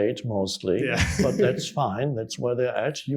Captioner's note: chuckles